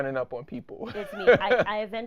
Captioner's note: laughing